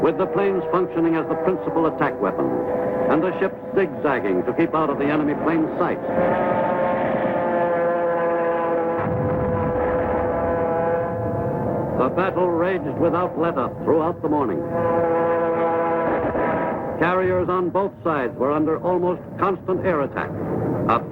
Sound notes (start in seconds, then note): 7.5 airplane engines roaring; 9.0 artillery firing